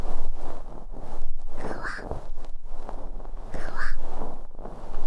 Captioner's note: soft fluffy sounds